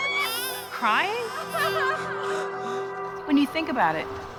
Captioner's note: crying